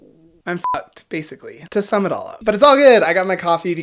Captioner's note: beep